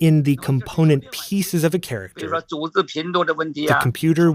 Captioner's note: speaking Mandarin